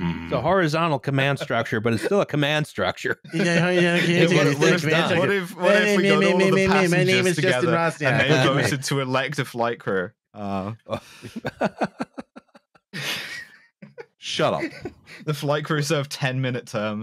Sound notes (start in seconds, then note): 10.8 laughs